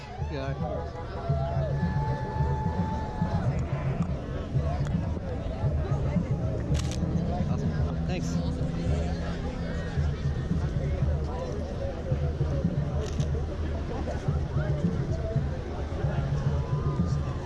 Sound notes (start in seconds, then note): 6.7 shutter click